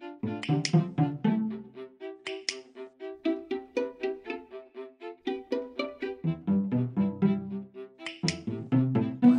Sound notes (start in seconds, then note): 0.4 click click; 2.2 click click; 8.0 click click